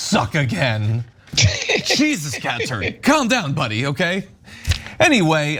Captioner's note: laugh